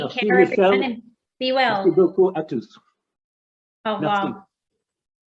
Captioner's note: speaking foreign language